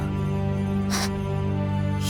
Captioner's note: gasp